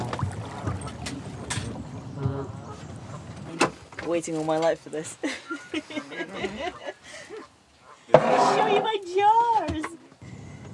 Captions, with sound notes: Been waiting all my life for this [laughter] to show you my jars!